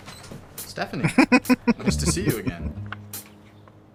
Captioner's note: laughing